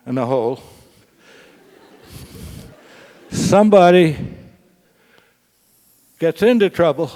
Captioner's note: laugh